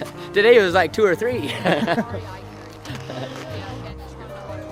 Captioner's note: laughs